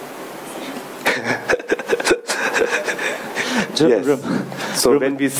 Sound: laughing

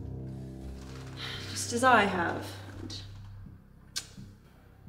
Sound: sigh

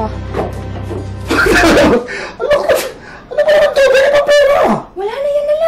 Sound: laughs

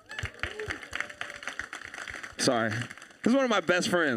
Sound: audience applauding

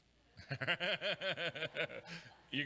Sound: laughs

